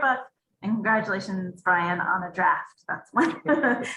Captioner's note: laughs